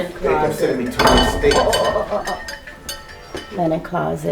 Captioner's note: dishes rattles